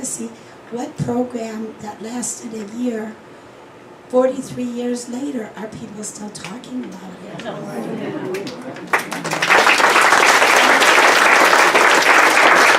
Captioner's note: clapping